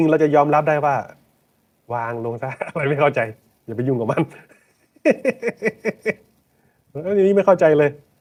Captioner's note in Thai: เสียงหัวเราะ